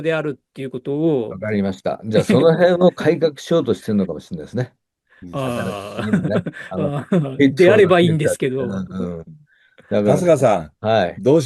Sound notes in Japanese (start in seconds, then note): 5.3 笑い